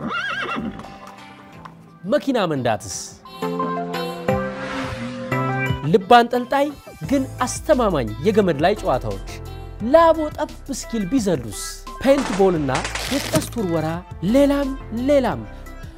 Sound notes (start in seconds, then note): none